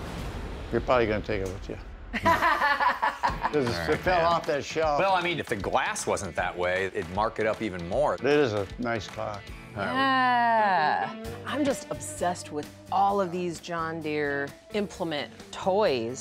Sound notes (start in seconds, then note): 2.1 laughs